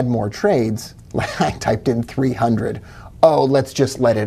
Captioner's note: giggling